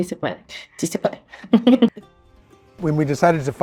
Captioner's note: laughing